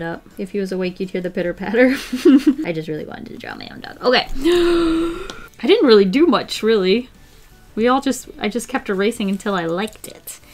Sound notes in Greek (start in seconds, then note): 1.9 Γέλια; 4.3 Βαθιά εισπνοή